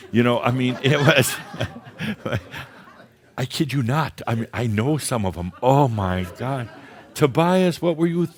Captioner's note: laughter; more chuckles